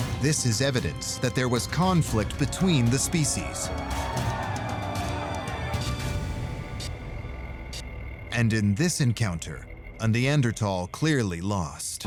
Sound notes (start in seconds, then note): 3.8 men shouting